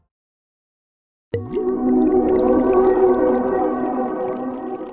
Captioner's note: water bubbling